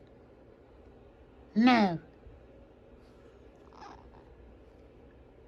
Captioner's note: meows